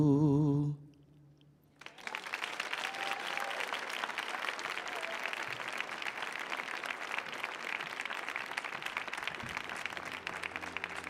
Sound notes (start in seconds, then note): 1.8 audience applauding; 1.8 audience cheering